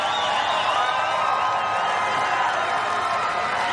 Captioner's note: crowd cheering